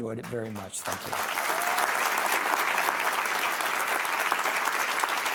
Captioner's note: audience applauding